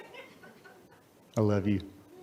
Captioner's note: audience laughs